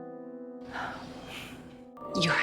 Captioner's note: Serena exhales